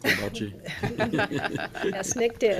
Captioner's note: assembly laughs